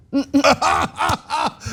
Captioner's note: laugh